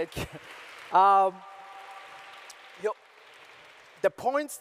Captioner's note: applauses